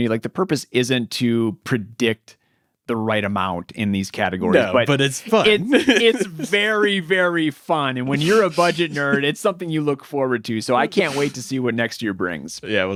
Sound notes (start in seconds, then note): 4.5 laughs